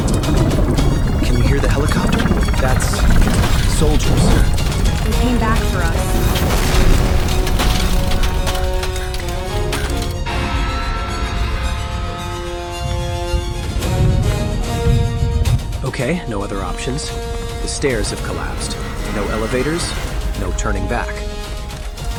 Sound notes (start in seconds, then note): 6.8 devastation roaring as tense music plays